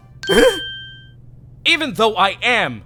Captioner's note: panicked yelp!